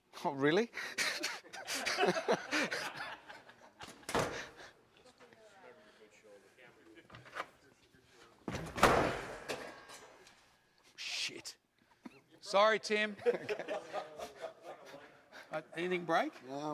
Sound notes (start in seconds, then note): 0.9 laughs along with the audience; 8.5 door slammed hardly